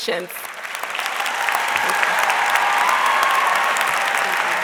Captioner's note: audience cheering